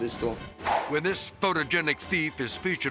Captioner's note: transition whips